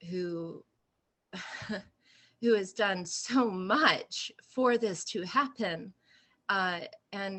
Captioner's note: laughter